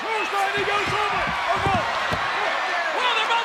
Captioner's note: audience cheers